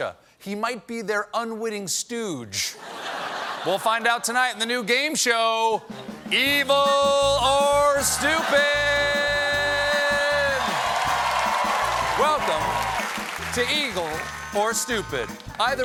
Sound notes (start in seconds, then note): 11.8 cheers and applause